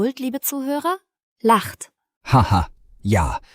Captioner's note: laughs